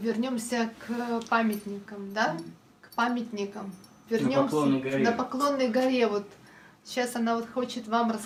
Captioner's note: foreign language